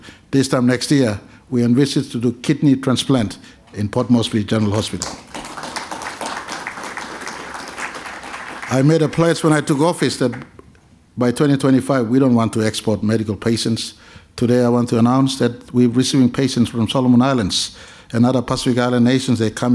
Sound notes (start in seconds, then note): 4.6 applause